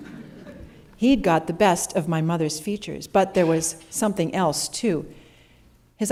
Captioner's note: laughter